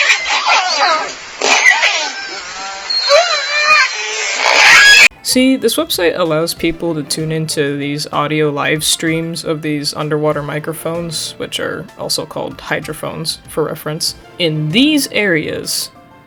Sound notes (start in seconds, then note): 4.3 ungodly orca sounds